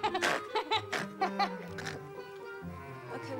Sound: horsey lghau

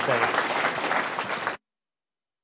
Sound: applause

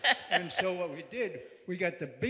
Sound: laughter

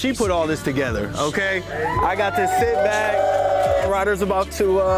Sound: group cheering

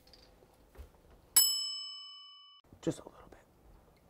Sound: ding

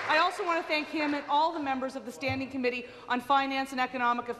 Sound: applause

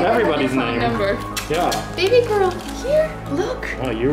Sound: kissing sounds

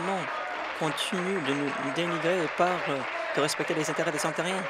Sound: applause

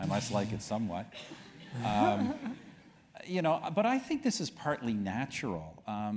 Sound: laugh

